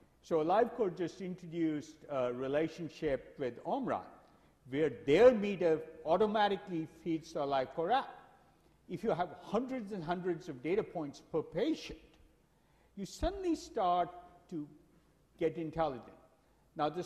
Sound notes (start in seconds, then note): none